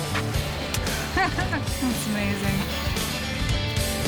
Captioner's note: laughing